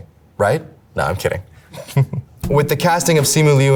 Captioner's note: chuckles